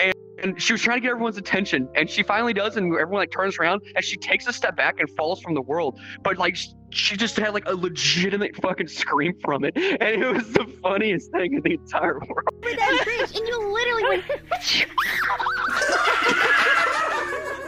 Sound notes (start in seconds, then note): 14.7 achoo!; 15.0 screams; 16.6 laughing